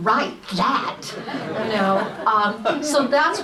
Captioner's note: audience laughs